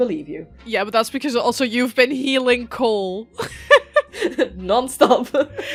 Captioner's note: laughs